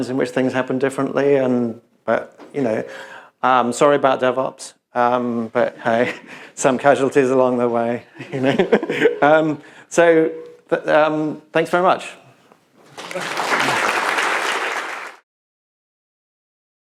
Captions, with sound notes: in which things happened differently. Sorry about DevOps, but hey, some casualties along the way. [laughs] Thanks very much. [applause]